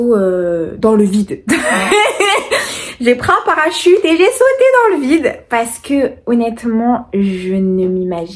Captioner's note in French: rires